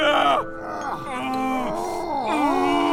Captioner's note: growls